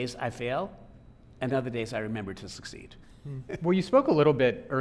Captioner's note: laughing